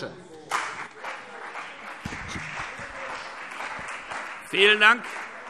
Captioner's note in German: Beifall CDU und Freie Demokraten